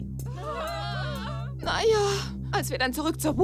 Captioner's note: crying